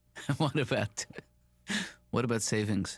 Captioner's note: laughing